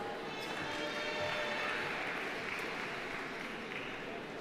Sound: audience applauding

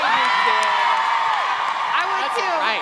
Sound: cheering

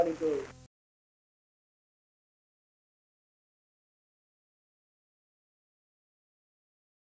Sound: gap in recording

